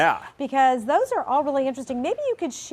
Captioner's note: voiceover